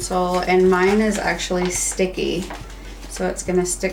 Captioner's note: stencil shuffling